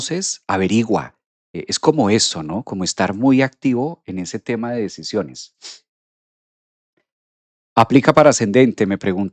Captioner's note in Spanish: resoplido